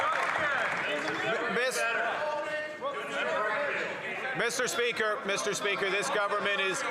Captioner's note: some Applause